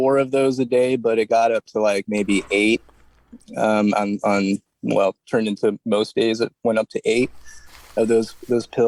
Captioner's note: stammering